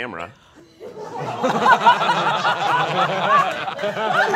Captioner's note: all laughing